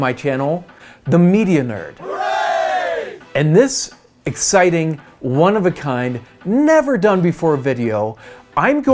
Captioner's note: group cheer: Hooray